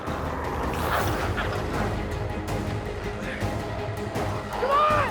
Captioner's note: intense music continues; glowzies growling